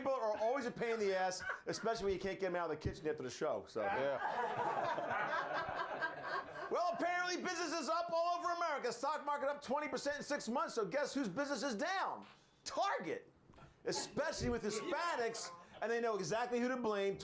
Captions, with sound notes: - LOOK, LOOK, LOOK. NAKED PEOPLE ARE ALWAYS A PAIN IN THE ASS, ESPECIALLY WHEN YOU CAN'T GET THEM OUT OF THE KITCHEN AFTER THE SHOW. [Laughter] WELL, APPARENTLY BUSINESS IS UP ALL OVER AMERICA. STOCK MARKET UP 20 PERCENT IN SIX MONTHS, SO GUESS WHOSE BUSINESS IS DOWN? TARGET. ESPECIALLY WITH HISPANICS AND THEY KNOW EXACTLY WHO TO BLAME.